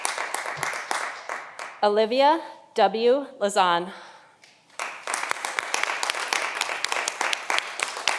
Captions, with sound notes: Olivia W. Lazan. (audience applauding)